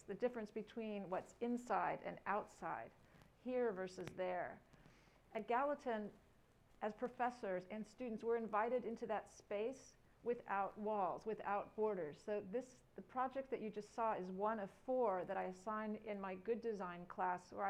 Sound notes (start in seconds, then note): none